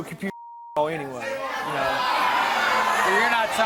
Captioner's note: audience yelling